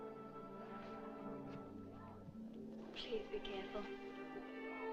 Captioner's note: guests Chattering In Distance